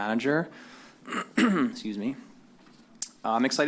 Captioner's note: clears throat